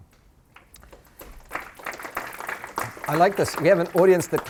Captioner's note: applause